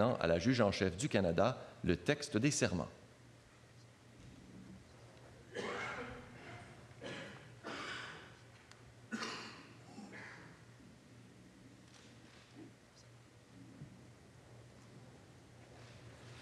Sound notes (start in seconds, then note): 0.0 speaking French; 5.3 speaking French